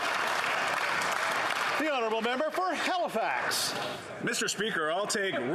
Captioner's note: some Applause